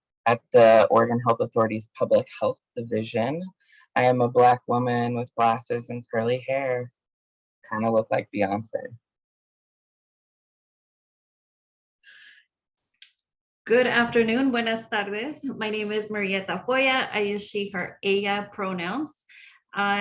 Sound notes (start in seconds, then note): 14.2 speaking in foreign language